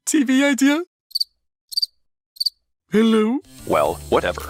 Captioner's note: crickets